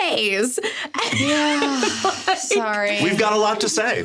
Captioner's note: sighing